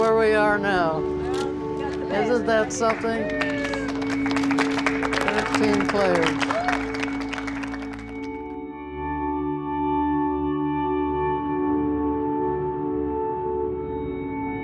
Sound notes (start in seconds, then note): 4.8 applause; 9.3 somber music